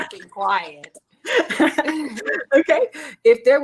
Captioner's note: ladies laughing